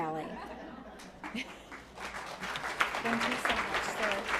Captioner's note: applause